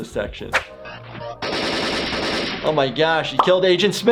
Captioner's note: gun shots